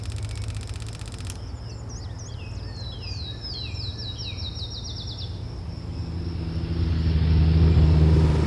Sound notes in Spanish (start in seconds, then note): 2.2 Sonidos de Naturaleza; 5.8 Sonido de Motocicleta acercandose